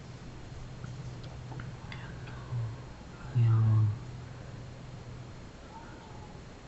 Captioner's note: foregin language